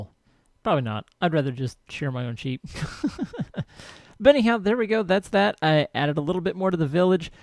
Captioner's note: laughs